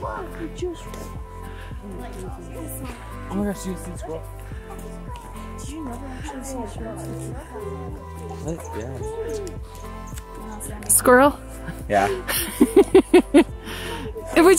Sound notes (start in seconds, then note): 5.3 bright relaxing music; 5.3 kids indistinct chatter; 12.1 laughs